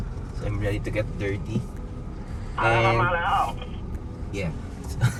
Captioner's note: radio